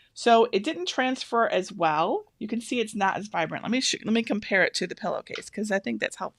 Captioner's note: none